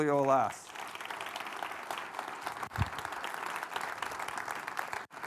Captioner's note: audience applauding